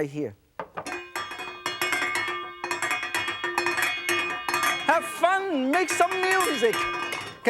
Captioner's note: pan rattling